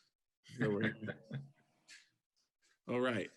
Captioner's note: participant chuckles